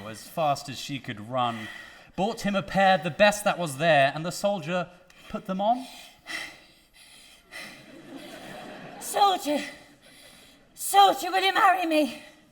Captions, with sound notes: as fast as she could run, bought him a pair, the best that was there and the soldier put them on. (Kate panting) (audience laughing) - Soldier, soldier, will you marry me